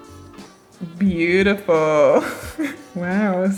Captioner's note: laughs